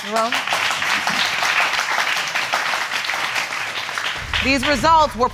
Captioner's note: audience clapping